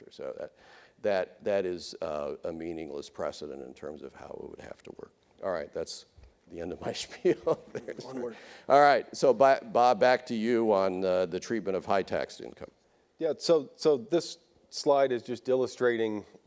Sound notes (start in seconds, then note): 7.2 laughs